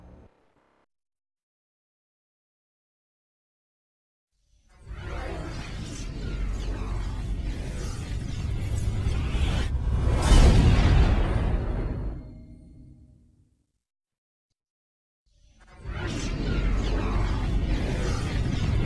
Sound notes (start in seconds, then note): 0.0 silence; 4.8 dramatic twister and helicopter sounds; 16.3 dramatic sounds continuing